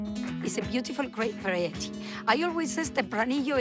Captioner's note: with Spanish accent